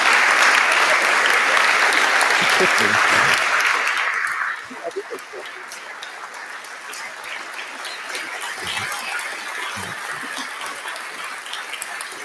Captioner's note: applause